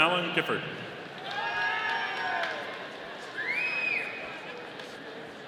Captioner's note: audience cheering